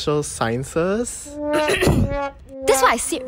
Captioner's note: clears throat